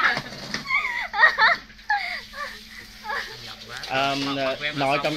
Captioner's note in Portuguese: Tiếng cười